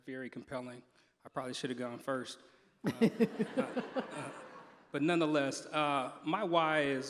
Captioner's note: laughter